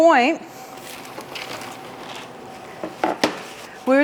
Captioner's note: papers rustle; tray clatters